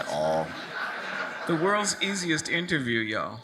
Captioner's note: audience laughs